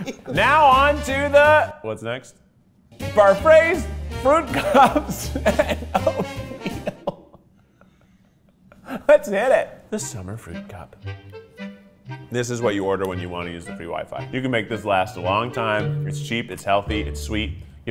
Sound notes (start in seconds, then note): 2.9 light orchestral music; 7.2 laughing